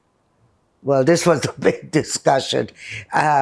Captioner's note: laughing